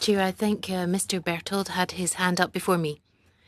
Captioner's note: speaking French